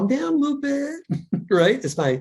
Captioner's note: chuckles